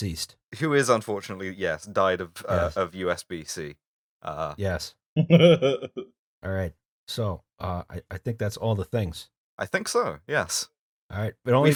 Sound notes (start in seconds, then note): 5.2 laughter